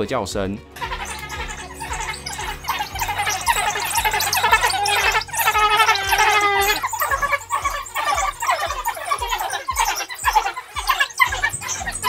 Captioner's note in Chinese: 非洲野狗叫聲